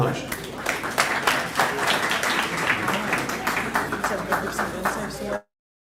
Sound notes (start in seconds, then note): 0.0 applause